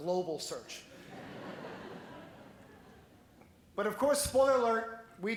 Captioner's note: laughing